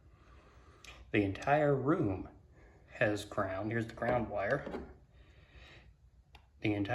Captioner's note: soft tap